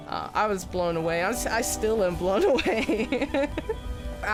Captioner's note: laughs